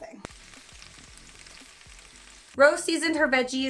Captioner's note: pan sizzling